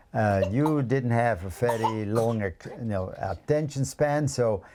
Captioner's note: coughs